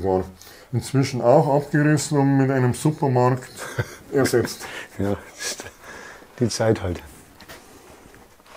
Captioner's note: laughter